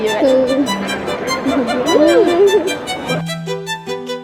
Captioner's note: whimpers